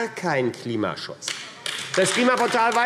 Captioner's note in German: Beifall AfD